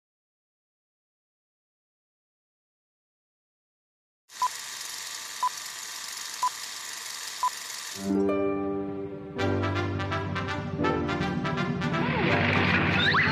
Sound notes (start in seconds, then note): 4.3 projector whirring; 4.6 beep blipping; 9.6 bright orchestral music